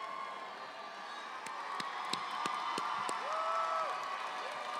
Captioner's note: audience applauding